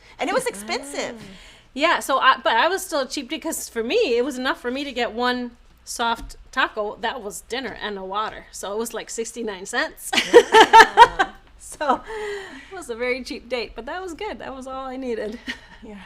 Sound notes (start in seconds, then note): 10.6 laughing